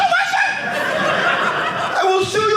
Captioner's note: audience laughing